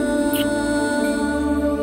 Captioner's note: Kissing